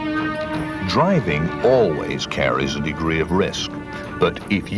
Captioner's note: voiceover